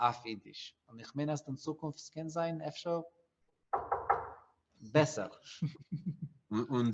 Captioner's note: knocks on wood